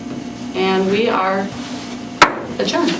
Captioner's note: gavel strikes table